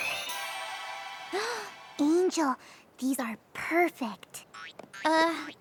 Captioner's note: gasps